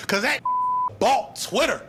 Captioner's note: beep